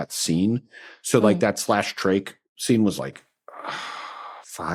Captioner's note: sighs